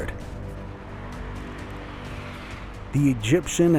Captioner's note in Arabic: همهمة المرور